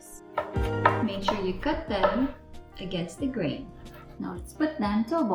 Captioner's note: kife thudding